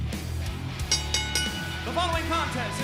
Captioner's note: bell ringing